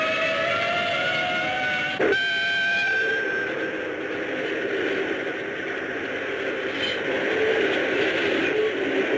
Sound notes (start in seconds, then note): 2.8 train whistles